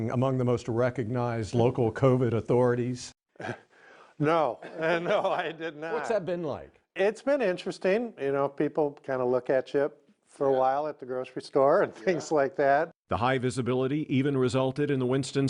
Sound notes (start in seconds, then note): 4.6 laughing